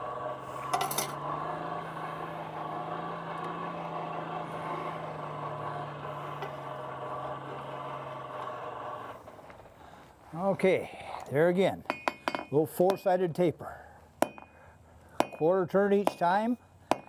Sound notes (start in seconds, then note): 0.0 whirring